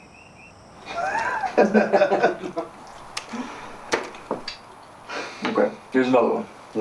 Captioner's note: Ramon and Sterling laughing